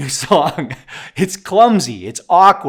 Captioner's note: laughs